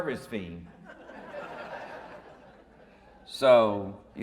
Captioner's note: audience laughing